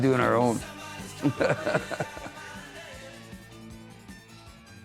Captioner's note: laughing